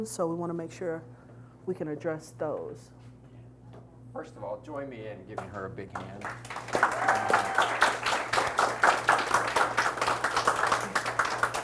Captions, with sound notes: so we wanna make sure we can address those. - First of all, join me in giving her a big hand. (audience applauds)